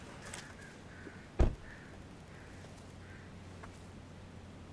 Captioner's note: car door clicks; car door thuds